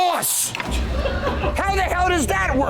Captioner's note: staff giggling